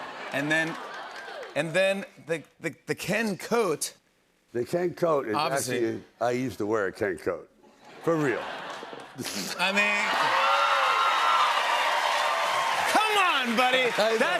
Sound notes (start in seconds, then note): 9.7 cheers and applause